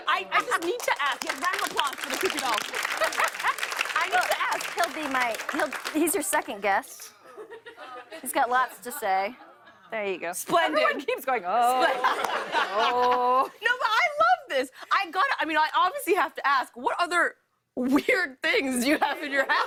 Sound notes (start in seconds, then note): 0.4 applause; 7.2 laughter; 11.7 laughter; 18.8 laughter